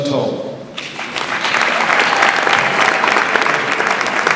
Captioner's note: audience applauds